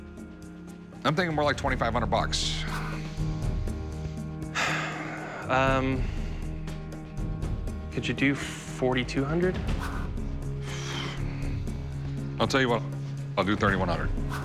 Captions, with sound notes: I'm thinking more like 2500 bucks. [sighs] Um... Could you do $4,200? I'll tell you what. I'll do $3,100.